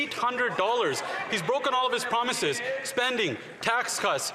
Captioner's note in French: voix de l'interprète